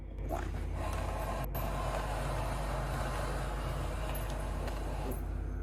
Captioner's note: low, swirling, vibrating sound; vibrations grow louder, then fade into timeline screen